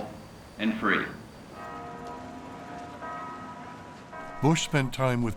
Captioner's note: bell tolling